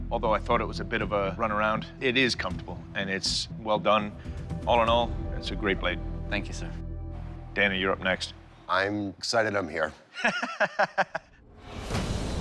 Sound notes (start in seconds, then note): 10.1 both laughing; 11.4 dramatic music